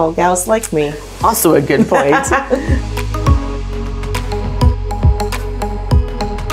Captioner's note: laughing